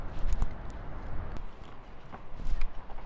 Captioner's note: wind blowing